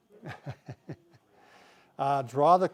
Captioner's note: laughing